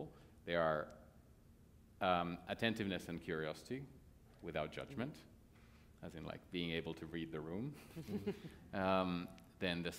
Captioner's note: laughter